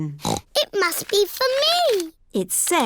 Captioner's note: snorts